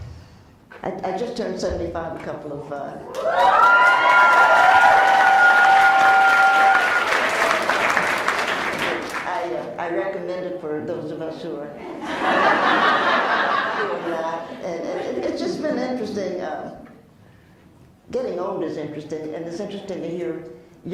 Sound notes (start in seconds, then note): 3.0 cheers; 7.3 applauds; 11.9 laughs